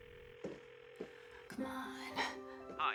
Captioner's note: phone ringing